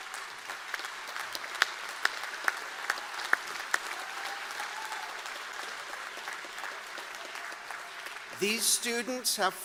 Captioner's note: applause